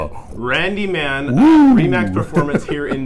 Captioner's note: laughs